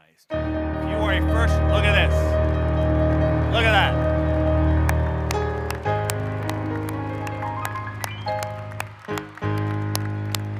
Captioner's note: applause